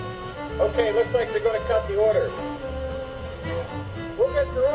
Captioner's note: voiceover